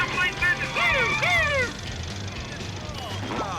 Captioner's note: imitating siren